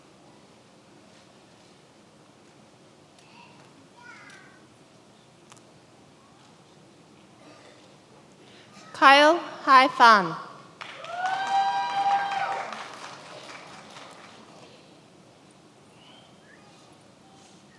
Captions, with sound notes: Kyle Hai Phan (many applauding)